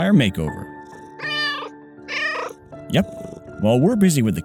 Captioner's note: meow